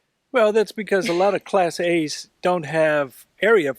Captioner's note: laughs